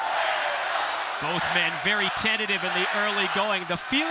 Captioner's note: crowd cheering